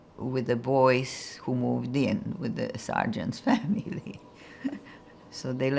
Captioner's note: laughing